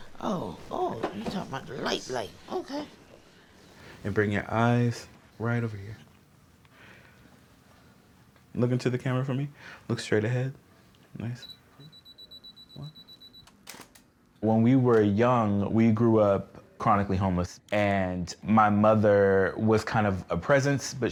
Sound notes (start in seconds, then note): 11.8 camera beeping; 13.6 camera clicks